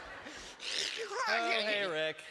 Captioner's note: snarling